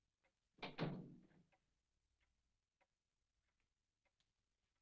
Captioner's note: door slamming